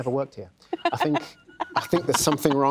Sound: laughs

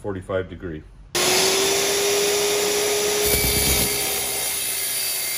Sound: tile saw revving

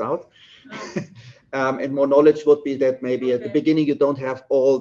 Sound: chuckles

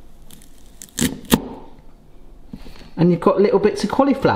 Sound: cauliflower crunches

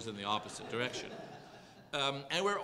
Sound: laugh

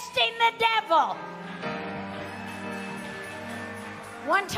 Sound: congregation applauding

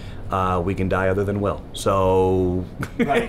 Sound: laughs

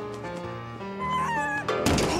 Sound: howls

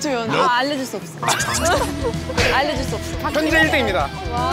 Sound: crying

